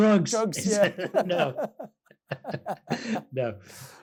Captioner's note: laughing